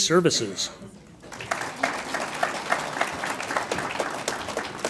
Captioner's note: audience applauds